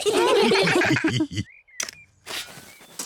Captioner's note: all laugh